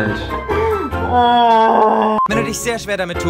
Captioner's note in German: stöhnt